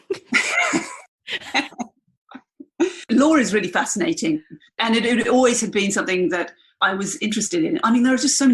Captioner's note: laughs